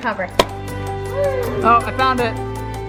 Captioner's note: pops